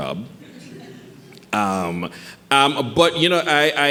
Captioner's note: audience chuckling